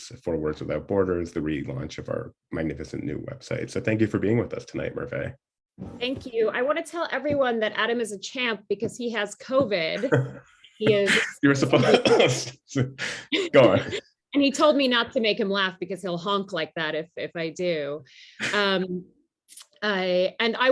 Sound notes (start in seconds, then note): 10.9 coughs; 11.0 laughter